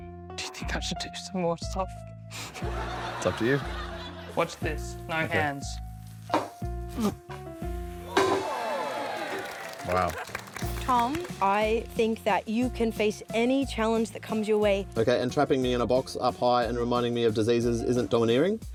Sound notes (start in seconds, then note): 4.3 pan sizzles